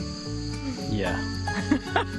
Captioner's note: laughs